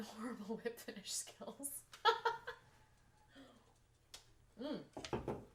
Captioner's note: laughs